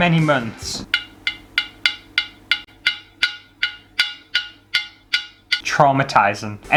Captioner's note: ding